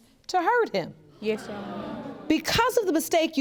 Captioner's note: audience groans